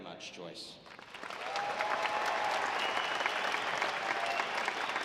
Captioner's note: audience applauding